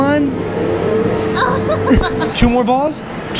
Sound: laughs

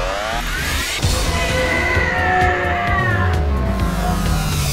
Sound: Azalla yelling

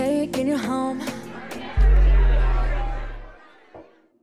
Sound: bar chatter

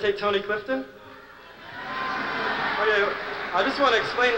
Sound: shouting

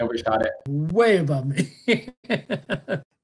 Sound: laughing

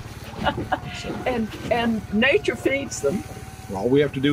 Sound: laughs

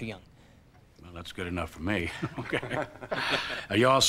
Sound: polite Chuckles

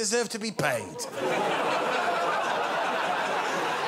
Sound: laughter

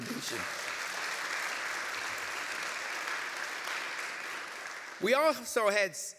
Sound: applause

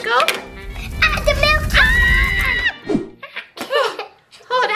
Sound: mom screaming

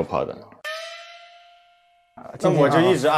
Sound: confident

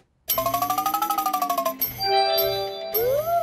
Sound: beeps and chimes

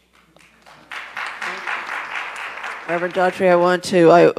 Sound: audience applauds

